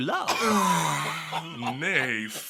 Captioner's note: laughter